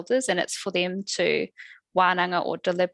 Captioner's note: non-english speech